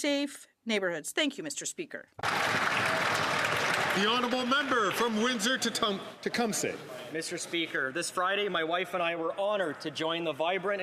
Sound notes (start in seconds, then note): 7.3 some Applause